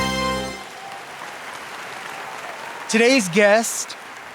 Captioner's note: audience applauding